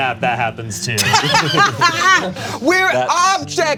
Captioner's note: Bug laughs